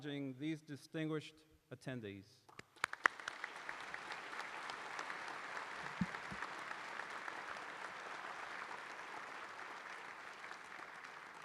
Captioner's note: applause